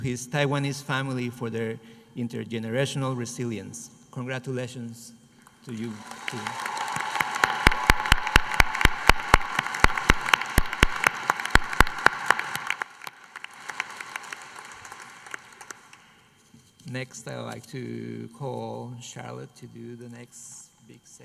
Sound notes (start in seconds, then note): 6.4 applause